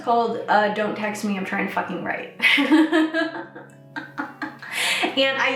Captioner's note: laughs